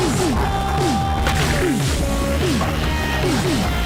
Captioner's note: flamethrower lizard chortles